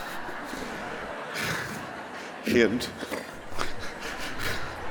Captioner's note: laughter